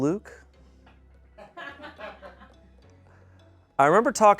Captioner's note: audience laughing